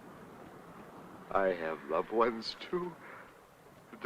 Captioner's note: sobbing